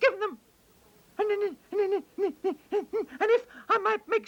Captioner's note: fox stammering